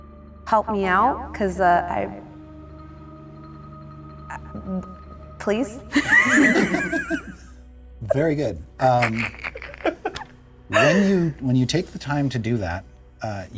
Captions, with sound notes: help me out 'cause I- Please. (players laughing) - Very good. When you take the time to do that,